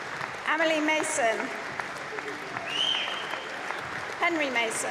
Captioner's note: applause; cheering